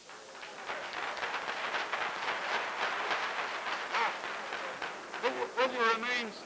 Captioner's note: applause